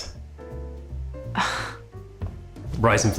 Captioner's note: sighs